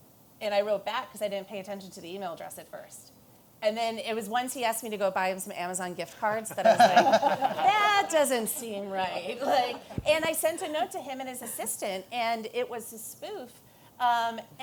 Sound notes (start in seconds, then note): 6.4 laughter